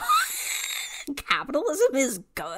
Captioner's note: wheeze laughs